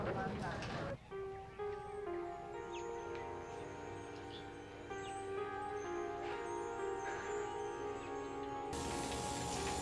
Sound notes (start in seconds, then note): 6.3 birds twittering; 6.3 eerie music